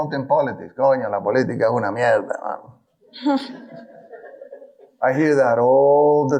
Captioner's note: speaking in foreign language